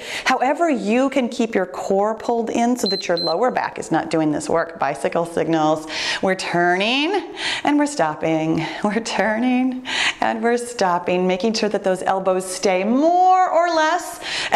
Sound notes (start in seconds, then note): 2.8 timer beeps